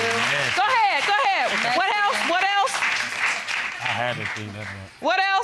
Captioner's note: mumbling